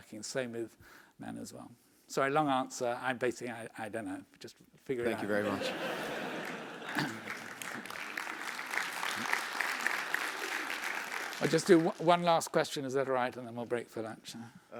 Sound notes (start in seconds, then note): 5.2 laugh; 5.8 applause